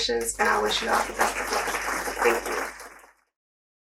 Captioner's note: applause